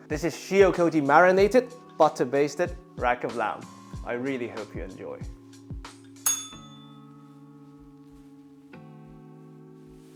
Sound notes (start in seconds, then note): 6.2 bell rings